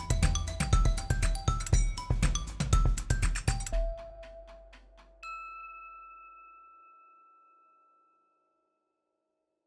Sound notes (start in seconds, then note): 0.0 bright music; 5.0 audio dings